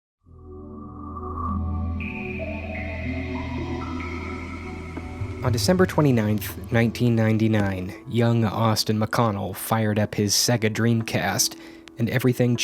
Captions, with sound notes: [SEGA Dreamcast Start Up Sound] On December 29, 1999, young Austin McConnell fired up his SEGA Dreamcast, and everything